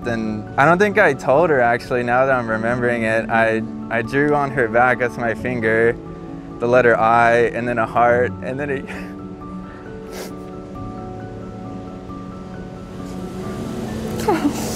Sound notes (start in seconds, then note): 10.1 sobs